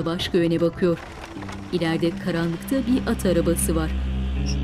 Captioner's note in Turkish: At arabası sesi; Müzik - Gerilim